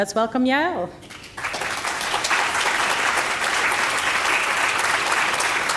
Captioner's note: audience applauding